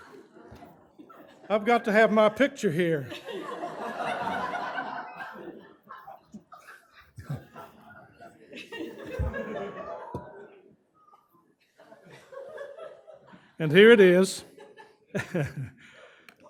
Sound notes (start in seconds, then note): 3.0 laughter; 14.7 chuckles